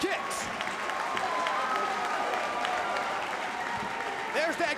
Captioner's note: audience cheering